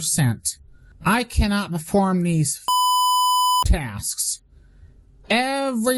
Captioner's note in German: Piep